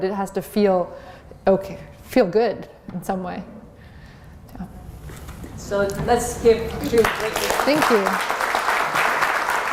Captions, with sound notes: to feel feel good in some way. So let's give Katrina a big hand. [APPLAUSE] Thank you.